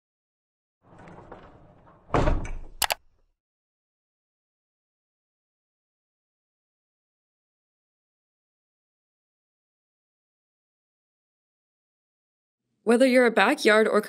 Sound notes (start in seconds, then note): 2.4 logo clacks; 2.8 mouse clicks